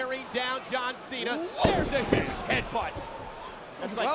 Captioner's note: body thudding